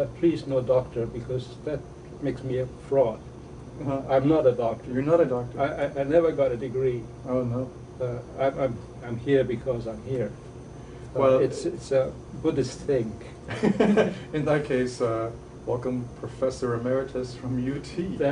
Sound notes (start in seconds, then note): 13.5 laughing